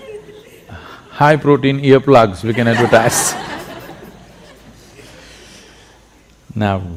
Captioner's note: laughter; laughter